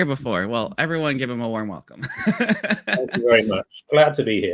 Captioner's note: laughs